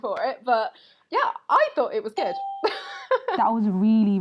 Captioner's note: laughs